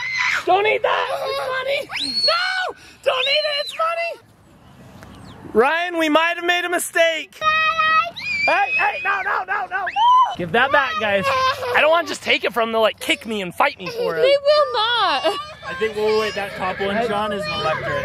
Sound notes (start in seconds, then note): 0.0 laughs; 7.2 shouts